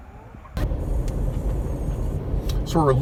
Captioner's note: car roaring